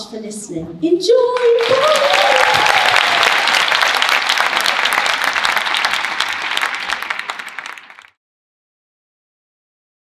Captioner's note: applause